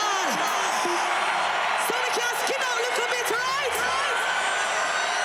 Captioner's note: crowd cheering